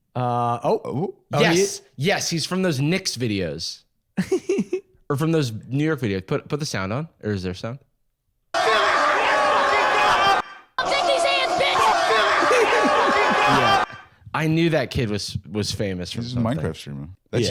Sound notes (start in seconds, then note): 8.5 crowd screaming